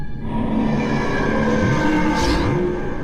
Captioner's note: roar